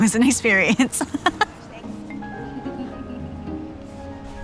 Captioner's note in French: rires